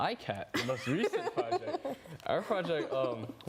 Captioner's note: laughing